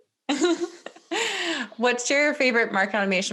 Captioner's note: laughing loudly